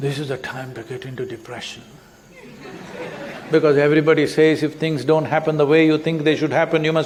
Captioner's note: laughter